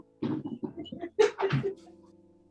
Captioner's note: giggling